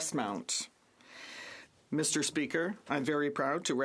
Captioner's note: speaking French